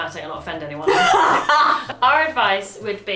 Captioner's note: laughs